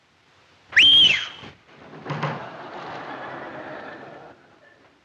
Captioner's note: Jimmy whistling